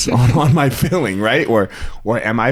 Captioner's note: both laugh